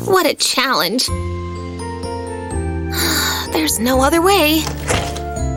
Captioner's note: sigh